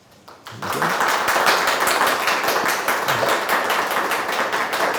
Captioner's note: audience applauding